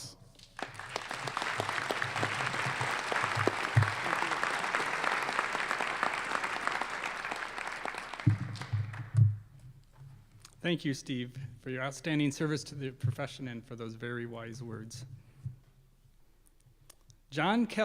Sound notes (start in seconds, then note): 9.4 applause